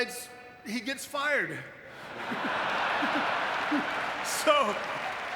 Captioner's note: audience laughing